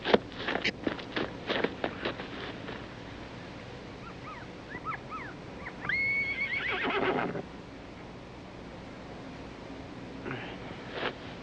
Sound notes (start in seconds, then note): 5.9 horse neighing